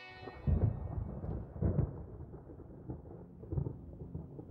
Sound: thunder rumbles

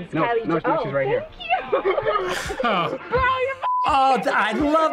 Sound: chuckles

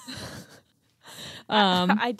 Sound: laughing

